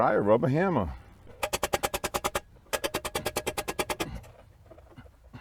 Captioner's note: hammer banging noise